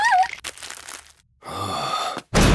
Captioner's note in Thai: สวบ